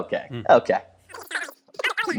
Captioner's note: high-pitched, indistinct chatter